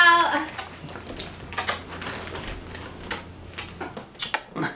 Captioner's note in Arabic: تقبيل الضوضاء